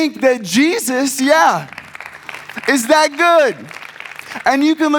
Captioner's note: audience claps